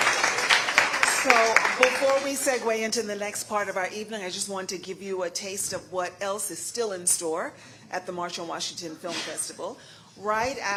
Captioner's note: applause